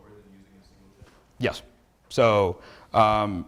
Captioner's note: student speaks faintly